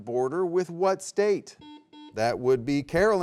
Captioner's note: buzzer beeps